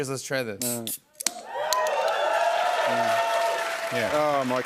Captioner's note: cheers and applause